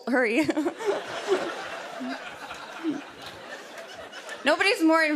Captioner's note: laughter